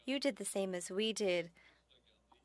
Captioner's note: speaking French